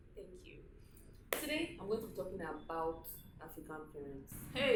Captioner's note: claps hand